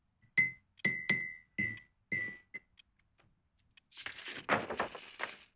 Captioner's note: glass clinking; papers rustling